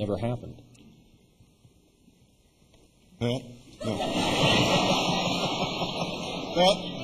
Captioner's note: laughter